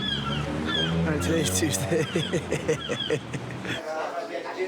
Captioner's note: laughs